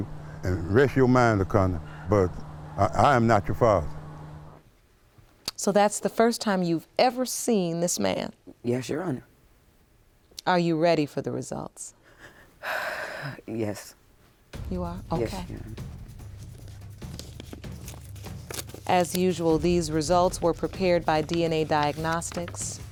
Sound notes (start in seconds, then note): 12.0 exhales